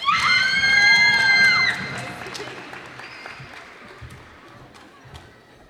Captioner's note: cheers and applause